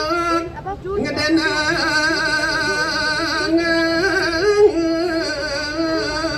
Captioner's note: laughter